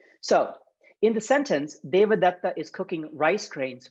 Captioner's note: speaking Sanskrit